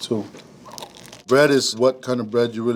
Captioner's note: bread crunching